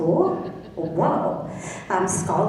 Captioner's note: laughing